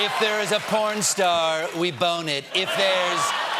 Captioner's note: laughter